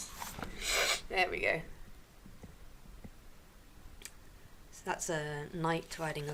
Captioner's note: sniff